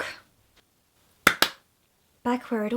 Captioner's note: claps twice